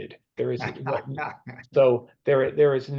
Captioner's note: laughing